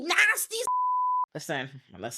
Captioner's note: beep